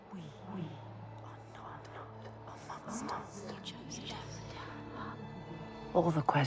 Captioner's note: chattering